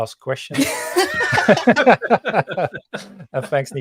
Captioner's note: all laughing